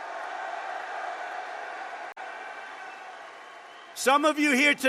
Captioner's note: applause